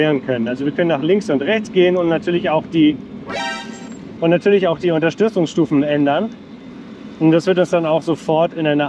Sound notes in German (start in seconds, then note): 3.3 Klingel